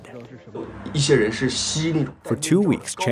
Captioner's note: speaking foreign language